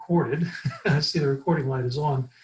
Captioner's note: laughing